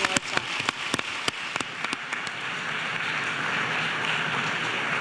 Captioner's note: audience applauding